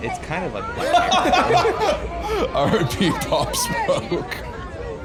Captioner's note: laughing